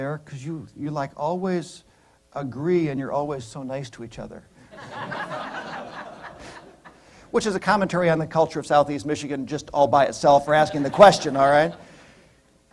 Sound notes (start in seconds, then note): 4.7 laughter